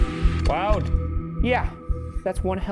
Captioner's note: slide projector clicks